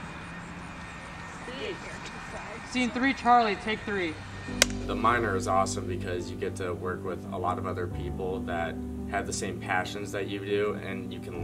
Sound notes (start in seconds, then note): 4.6 clapper claps